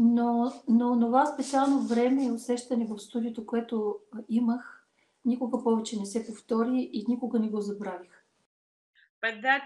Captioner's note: foreign Language followed by English Interpreter